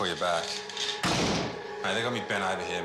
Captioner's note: door slams